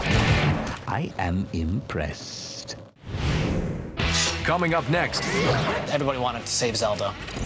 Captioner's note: gunshot